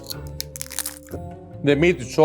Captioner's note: tostada crunches